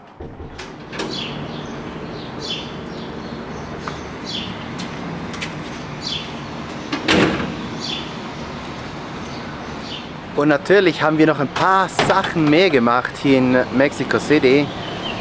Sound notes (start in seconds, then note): 5.8 birdsong